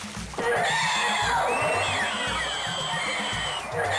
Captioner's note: lively music; water thrashing; girls screaming